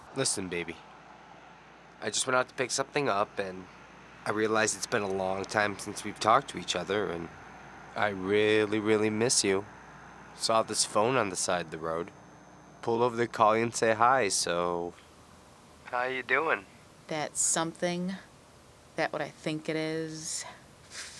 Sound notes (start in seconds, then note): none